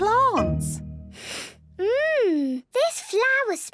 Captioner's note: sniffs